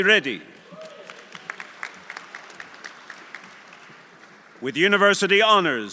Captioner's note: audience applauding